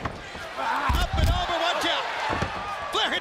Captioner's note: crowd chatter